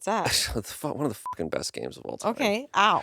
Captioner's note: beep